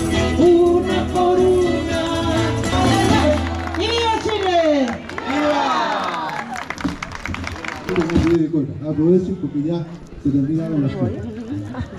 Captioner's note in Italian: Applauso